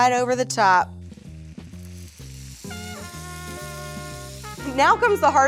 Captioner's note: baklava sizzles